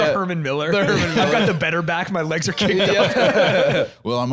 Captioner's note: laughs